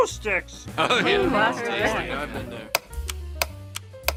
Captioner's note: murmuring Agreement